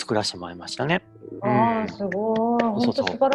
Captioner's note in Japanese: 拍手